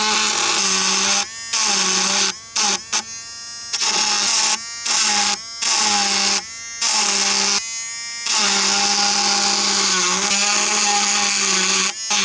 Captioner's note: loud buzzing